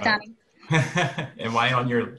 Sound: laughter

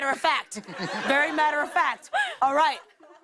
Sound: laughter

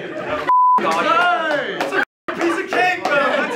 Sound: beep

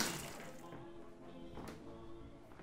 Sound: TV playing

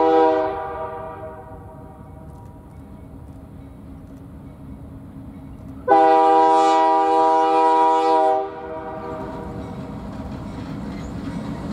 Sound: train

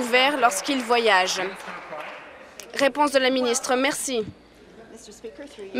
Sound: applause

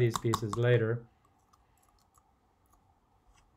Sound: spoon taps

